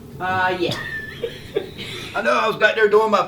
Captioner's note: laughing